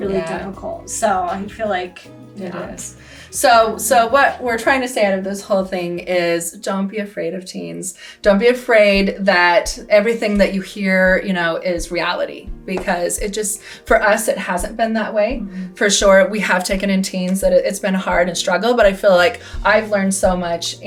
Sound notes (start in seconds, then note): none